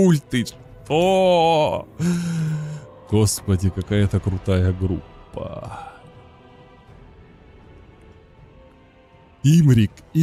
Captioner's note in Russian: тяжело вздыхает